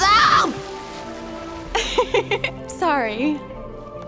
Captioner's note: laughs